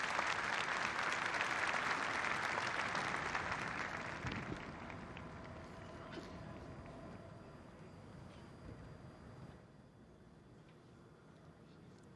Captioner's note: applause